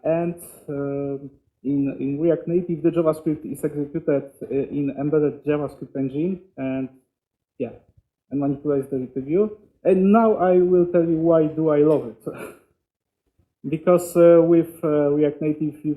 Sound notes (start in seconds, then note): 12.2 chuckles